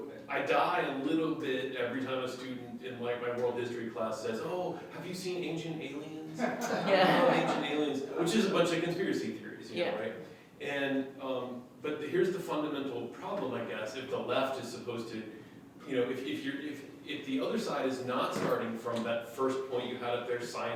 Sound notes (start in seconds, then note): 6.3 laughter